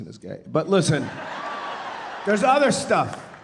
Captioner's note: audience laughing